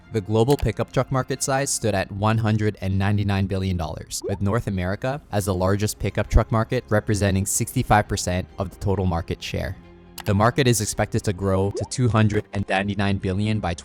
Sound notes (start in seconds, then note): 0.4 cursor clicking; 4.1 graphics popping; 10.1 graphics clicking; 10.1 graphics popping